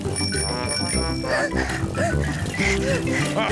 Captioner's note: rings bell and pants; giggles; chuckles